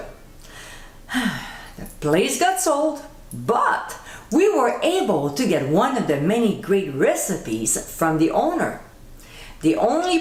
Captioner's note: sigh